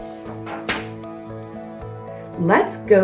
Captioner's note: uplifting instrumental music; page shuffles